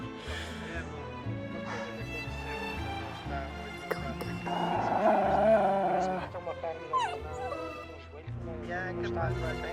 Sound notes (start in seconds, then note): 3.9 dog growling